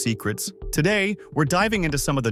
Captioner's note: host – now serious tone